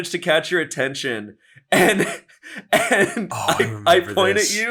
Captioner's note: laughing